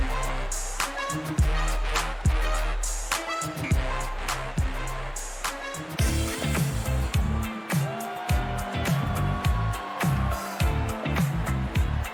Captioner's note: cheers and applause